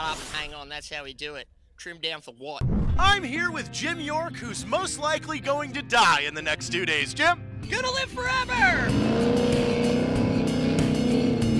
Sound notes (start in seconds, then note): 2.6 whoosh; 8.9 jetboat sounds